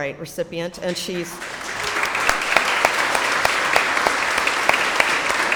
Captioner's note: audience applauds